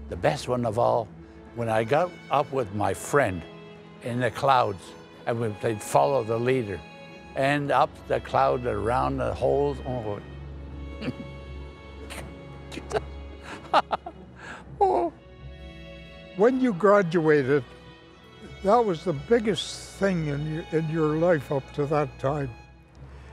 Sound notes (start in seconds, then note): 13.4 laughs